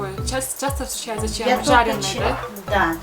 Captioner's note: speaking Kyrgyz